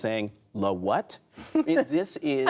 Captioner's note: laughter